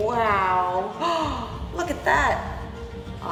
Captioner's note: gasp